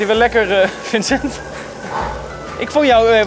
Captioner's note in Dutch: diepe zucht